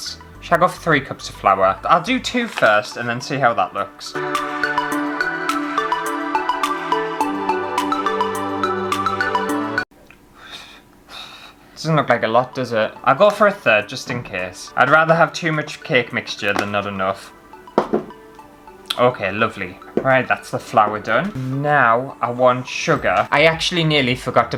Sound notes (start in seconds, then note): 10.0 blowing